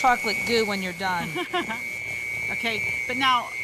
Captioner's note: laughs